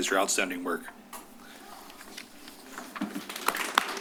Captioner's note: shuffling sounds; applause